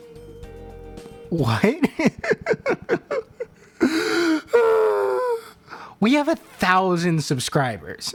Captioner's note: laughter